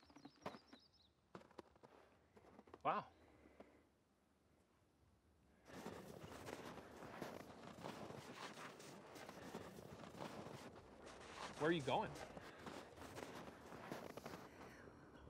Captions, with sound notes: Wow. (footsteps walking) Where are you going?